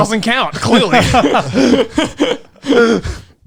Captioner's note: both laughing